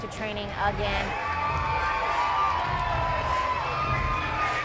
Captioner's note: applause